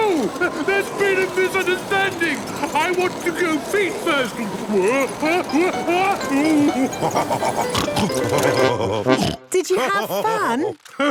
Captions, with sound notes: - No! There's been a misunderstanding! I want to go feet first! (shouting) (laughing, snorting) - Did you have fun?